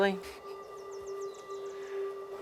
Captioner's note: chuckles